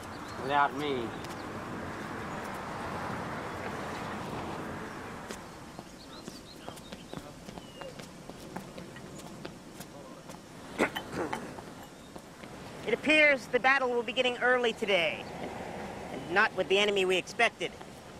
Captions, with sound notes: Without me. (footsteps) (water running) - (clearing throat) It appears the battle will begin early today. And not with the enemy we expected.